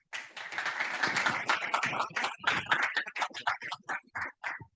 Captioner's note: attendees clapping